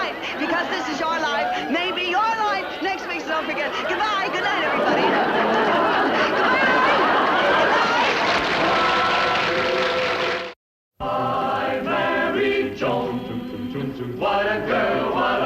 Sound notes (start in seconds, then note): 6.3 loud applause; 11.0 choral music